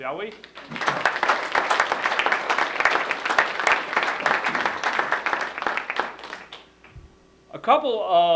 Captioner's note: applause